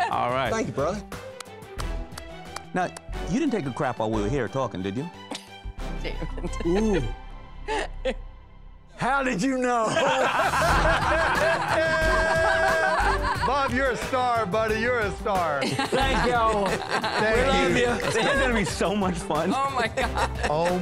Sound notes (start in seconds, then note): 9.8 laughter; 19.2 laughing